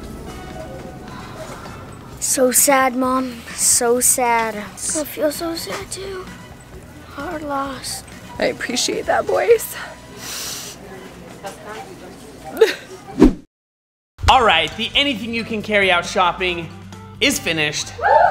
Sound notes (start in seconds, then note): 1.0 sighs; 10.1 sniffs; 12.5 light sob